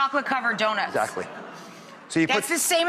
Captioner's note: audience groaning